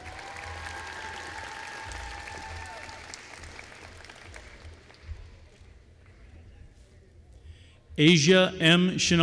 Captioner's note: applause